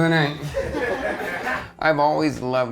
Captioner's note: crowd laughs